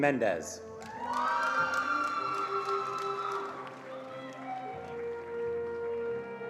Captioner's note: attendees cheering and applauding